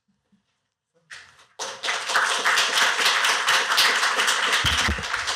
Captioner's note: applause